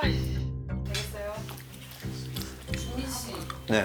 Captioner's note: calmly